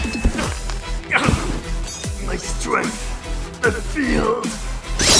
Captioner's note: groans